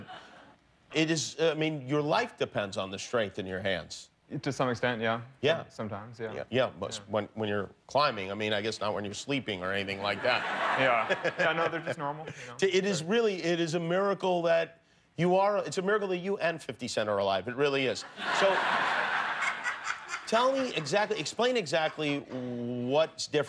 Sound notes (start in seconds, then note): 15.8 laughter